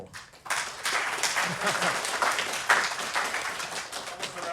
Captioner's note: applause